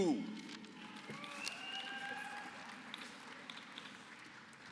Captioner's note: applause